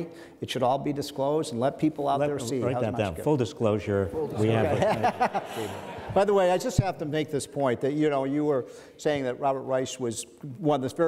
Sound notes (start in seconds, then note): 4.3 men laugh